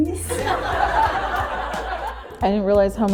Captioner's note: laughter